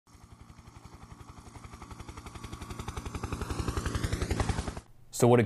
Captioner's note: helicopter in flight